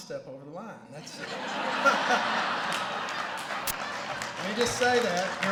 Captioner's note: laughter